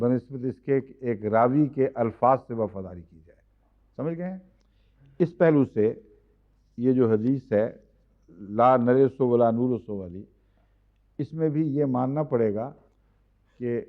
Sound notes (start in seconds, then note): 9.9 Arabic